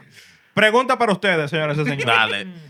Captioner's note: non-english Speech